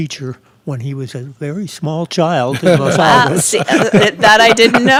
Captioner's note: laughing